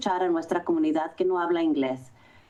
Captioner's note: foreign language